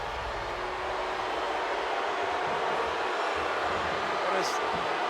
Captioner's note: audience booing